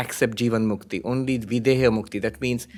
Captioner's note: hindi